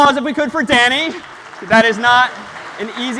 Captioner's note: applause